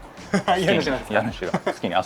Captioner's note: laughs